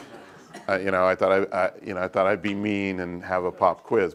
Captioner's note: laugh